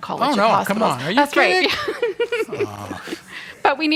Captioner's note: chuckles